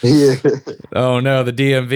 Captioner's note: laughs